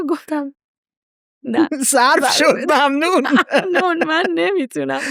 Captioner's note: laughs